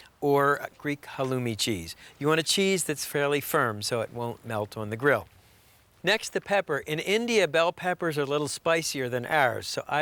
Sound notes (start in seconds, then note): none